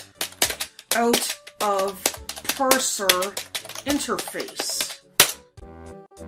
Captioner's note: typing angrily on keyboard